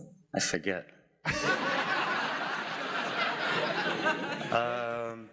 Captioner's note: audience laughing